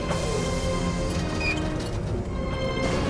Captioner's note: squeaking